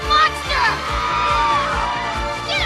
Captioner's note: pleople screaming